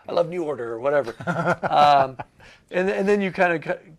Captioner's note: interviewer laughing